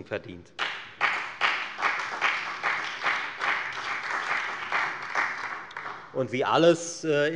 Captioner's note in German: Beifall bei der FDP und bei Abgeordneten der SPD